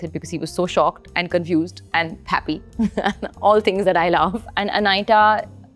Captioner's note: chuckles